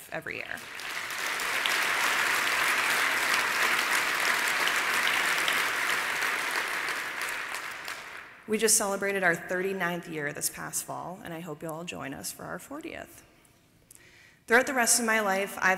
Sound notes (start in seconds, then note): 0.4 applause